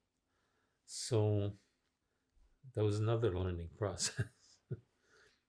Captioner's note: laughing